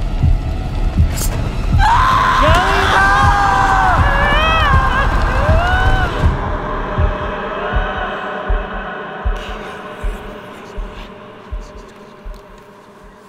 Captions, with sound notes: -No! -Karolina! (Karolina sobs) -(eerie music) -(wind whistling softly) -(ghostly voice whispering) -Kill him.